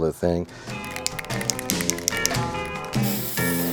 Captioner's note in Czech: třepání plechovky od barvy